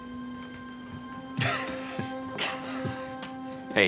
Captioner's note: both chuckle